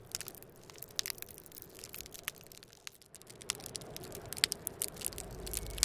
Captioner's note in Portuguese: Crepitação